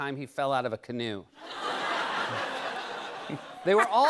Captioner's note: laughter